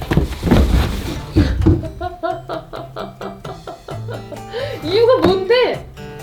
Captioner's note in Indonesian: tertawa